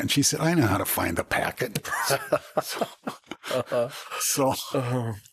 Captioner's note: laughter